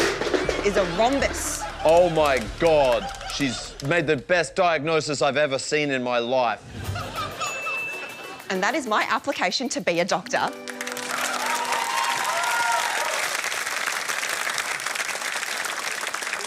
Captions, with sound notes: ..is a rhombus. Oh, my God, she's made the best diagnosis I've ever seen in my life. And that is my application to be a doctor. (APPLAUSE)